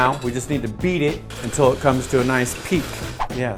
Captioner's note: whoosh; mixer whirring; whoosh